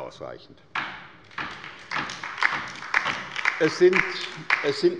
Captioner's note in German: Beifall bei der LINKEN